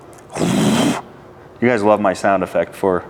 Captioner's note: imitates furnace roaring